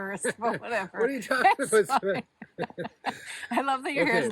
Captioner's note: laughing